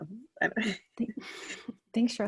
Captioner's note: laughs